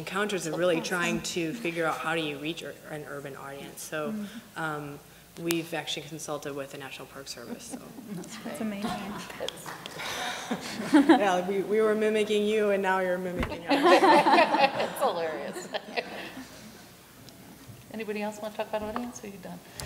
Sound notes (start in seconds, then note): 13.7 laughter